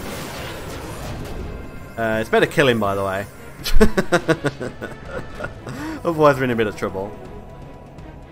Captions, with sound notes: Uh, this better kill him, by the way... (nervous laughter) ...otherwise, we're in a bit of trouble.